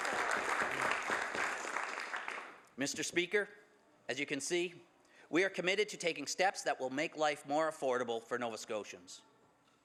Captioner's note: some Applause